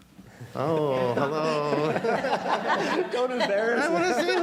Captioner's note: audience laughing